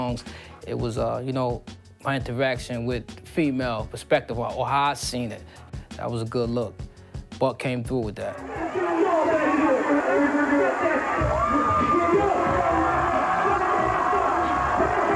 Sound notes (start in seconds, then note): 11.7 crowd cheering